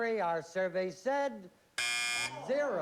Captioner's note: buzzer